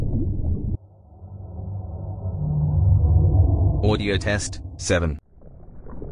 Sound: eerie ethereal transitional SFX

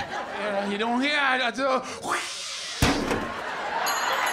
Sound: yowls; clang!

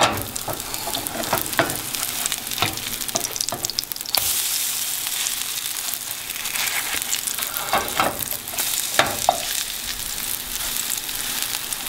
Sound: sizzling

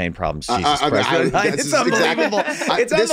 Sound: group laughs

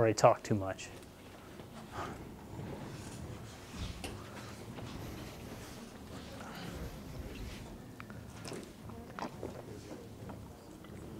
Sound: audience discussing

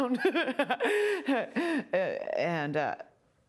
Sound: laughing

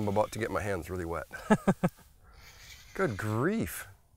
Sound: laughs

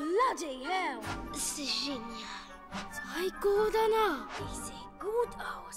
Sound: speaking in foreign language

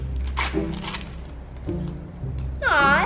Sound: paper tearing

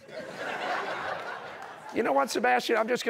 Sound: laughter

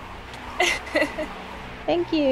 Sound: still laughing

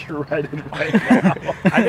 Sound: laughter

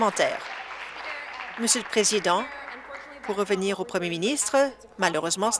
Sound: applause

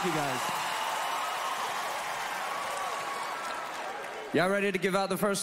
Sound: cheering

